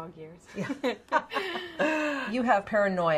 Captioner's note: laughs